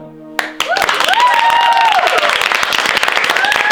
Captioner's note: applause and cheering